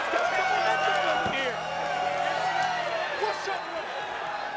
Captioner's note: crowd cheering